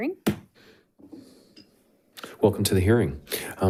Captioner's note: gavel bangs